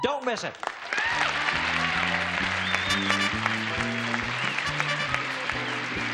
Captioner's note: cheers and applause